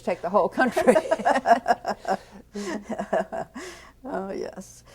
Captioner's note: laughs